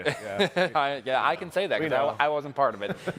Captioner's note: chuckles